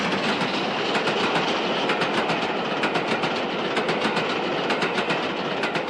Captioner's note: train passes